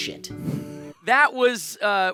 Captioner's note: scene whooshing